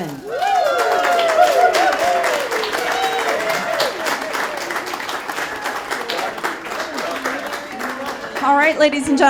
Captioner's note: cheering, applause